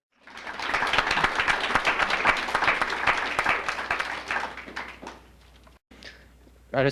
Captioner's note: clapping